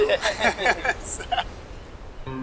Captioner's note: laughing